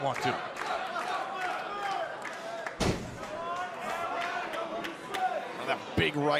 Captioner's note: crowd cheering